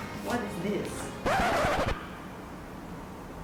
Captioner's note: record scratch